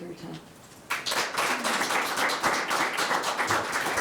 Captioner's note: all claps